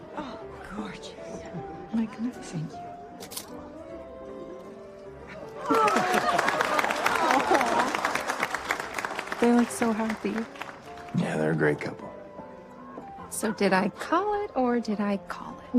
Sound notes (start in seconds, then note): 3.1 camera snaps; 5.6 applause